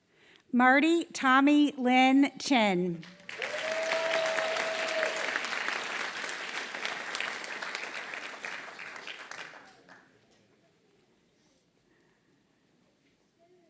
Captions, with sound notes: >> Marty Tommy Lin Chen. >> [APPLAUSE]